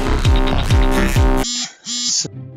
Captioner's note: phone vibrating